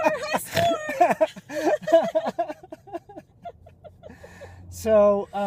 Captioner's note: laugh